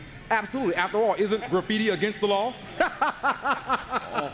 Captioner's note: laughs